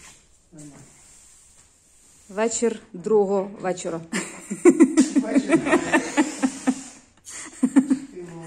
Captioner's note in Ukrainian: сміх